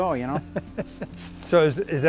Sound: laughs

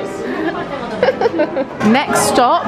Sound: laughs

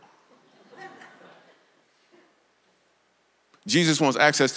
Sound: congregation laughs

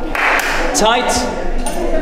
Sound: claps

